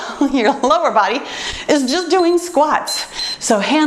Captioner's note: timer beeps